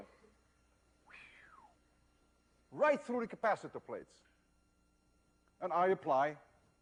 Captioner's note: whistle